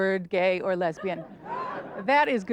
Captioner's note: audience laughter